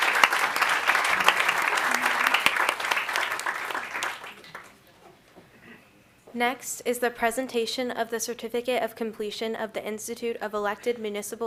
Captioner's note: applause